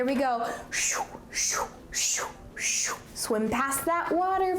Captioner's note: whooshing imitation